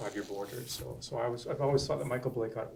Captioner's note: voiceover